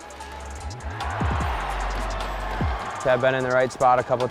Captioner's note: crowd cheers